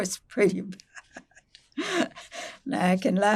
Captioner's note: laughing